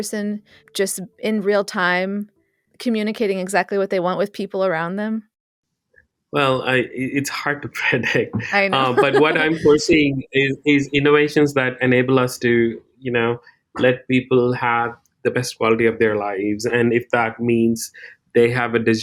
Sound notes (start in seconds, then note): 8.7 laughs